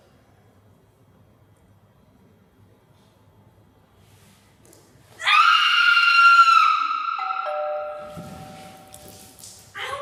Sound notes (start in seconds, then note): 5.2 OPHELIA screams; 7.2 doorbell rings